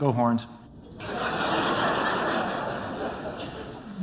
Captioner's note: laughter